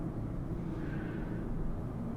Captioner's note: Sarah Exhales